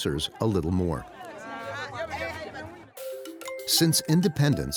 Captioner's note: group chatting in foreign language